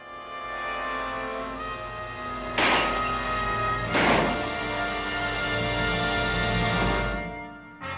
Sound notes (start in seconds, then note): 0.1 dramatic theme playing; 2.7 briefcase clatters